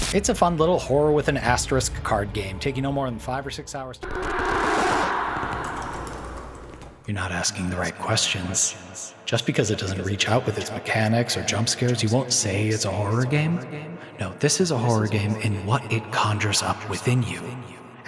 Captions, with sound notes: it’s a fun little horror-with-an-asterisk card game, take you no more than five or six hours to play through, [wind rushes] You’re not asking the right questions. Just because it doesn’t reach out with its mechanics or jumpscares, you won’t say it’s a horror game? No, this is a horror game in what it conjures up within you.